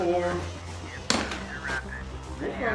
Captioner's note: loud sound of bar hitting plate